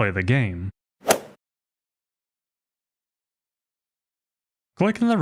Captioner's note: golf swing sound effect